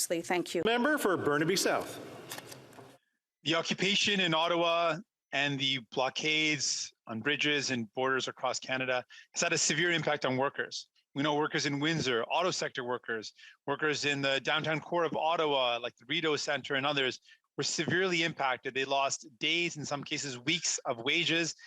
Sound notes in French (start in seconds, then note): 7.3 voix de l'interprète